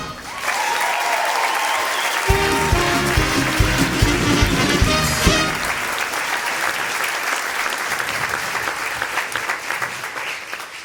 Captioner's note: audience applause